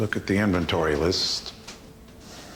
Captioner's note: papers raffle